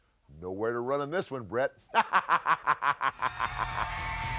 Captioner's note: laughs